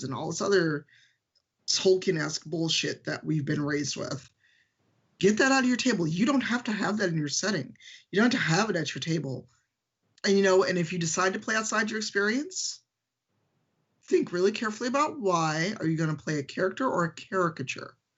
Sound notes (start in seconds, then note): none